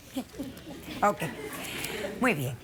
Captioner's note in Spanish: risas